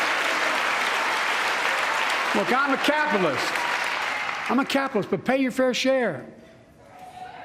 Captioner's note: cheers and applause